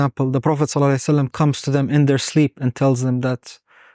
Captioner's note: speaking Arabic